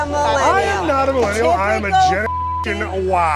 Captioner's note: beep